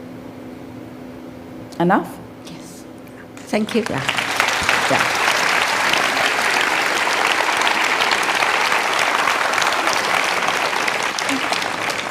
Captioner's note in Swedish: Applåder